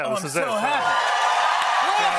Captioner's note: cheers and applause